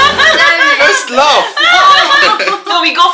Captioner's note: laugh